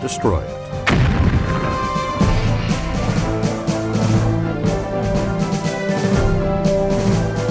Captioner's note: dark military music; bomb exploding